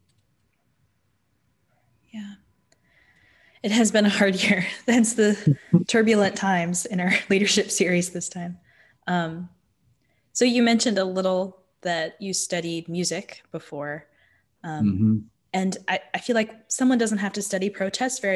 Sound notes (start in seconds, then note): 5.4 chuckles